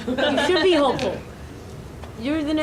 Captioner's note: audience laughing